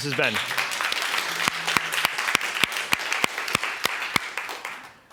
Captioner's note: applause